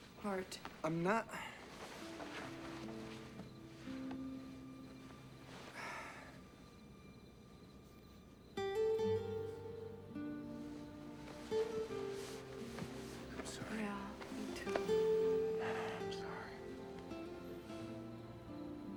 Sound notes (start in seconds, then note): 5.6 sighs; 14.6 sighs